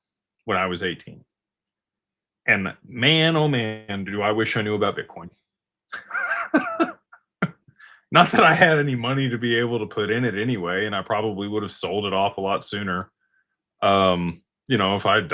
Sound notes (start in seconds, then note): 5.9 laughter